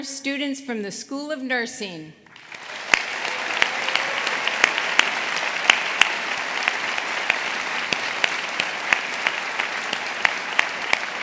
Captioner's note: applause